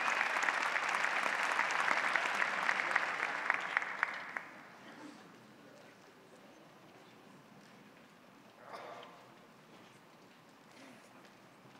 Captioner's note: applause